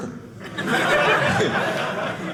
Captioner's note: audience laughing